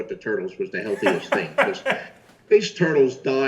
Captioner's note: Chris laughing loudly